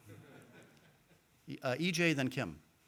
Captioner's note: audience laughing